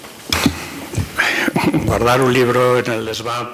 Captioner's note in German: spanisch